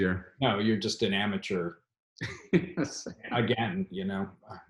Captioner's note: laughs